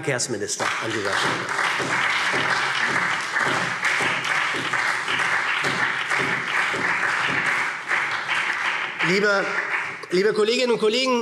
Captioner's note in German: Beifall SPD